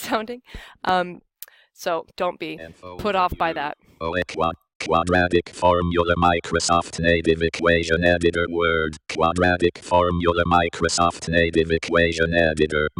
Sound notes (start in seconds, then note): 3.3 NVDA speaking